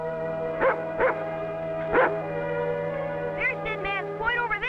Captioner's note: dog barking